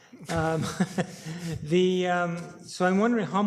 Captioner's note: laughing